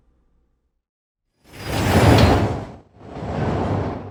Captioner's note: succession of rumbles